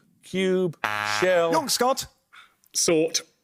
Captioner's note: buzzer